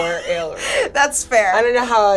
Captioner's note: laughing